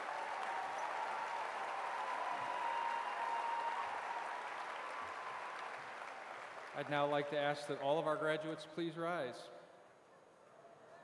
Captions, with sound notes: CONGRATULATIONS, TRANSPORTATION AND CONSTRUCTION TECHNOLOGIES GRADUATES. [ APPLAUSE ]